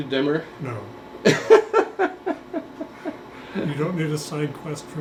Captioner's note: laughter